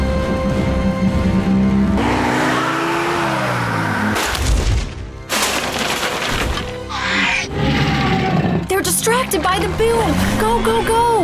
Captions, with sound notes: [roaring] [crackling] [screech] They're distracted by the boom. Go, go, go.